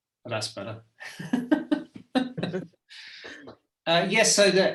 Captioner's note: laugh